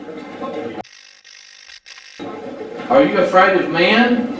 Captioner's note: static fizzing